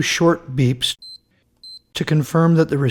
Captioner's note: beep beep